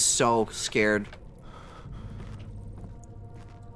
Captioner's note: Daniel breathing